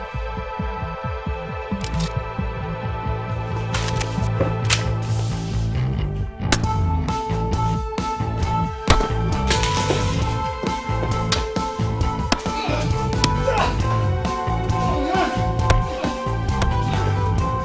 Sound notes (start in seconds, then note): 1.8 gun clicking; 12.4 men grunting; 12.5 blows thudding